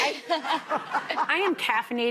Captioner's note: audience laughing